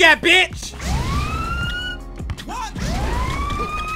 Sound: sirens

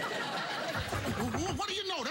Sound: knock on door

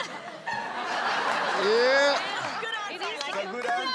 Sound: audience laughs

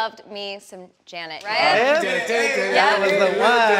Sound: quick sound fades

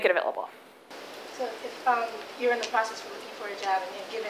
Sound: voiceover

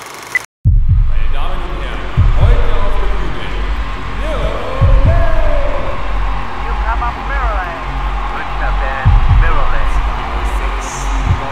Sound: crowd and announcer noises

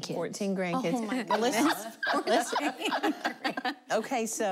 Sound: laughing

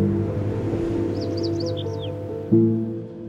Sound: wind blowing

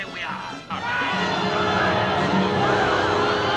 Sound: screaming

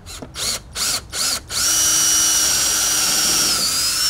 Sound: drill buzzing

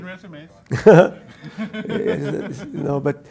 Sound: panel laughs

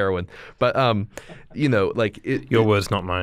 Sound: chuckle; laughter

